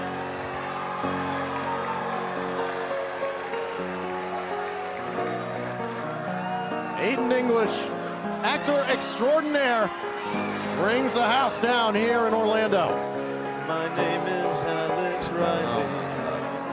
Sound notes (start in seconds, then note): 2.9 crowd cheering